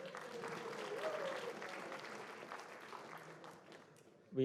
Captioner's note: cheering; applause